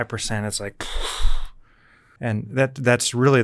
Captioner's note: air whooshing